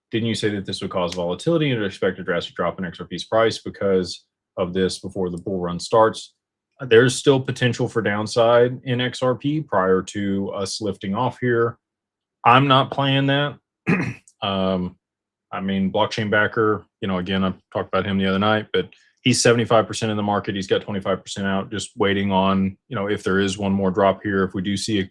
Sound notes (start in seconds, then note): 13.8 clears throat